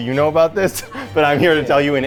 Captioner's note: laughs